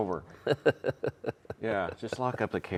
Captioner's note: laughing